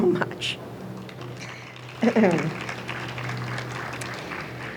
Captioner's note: audience applauds